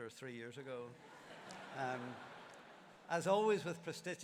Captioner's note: laughter